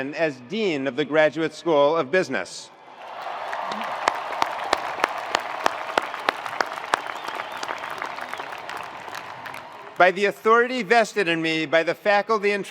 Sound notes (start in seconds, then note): 2.8 attendees cheering; 2.9 attendees applauding